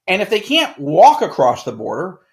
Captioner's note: none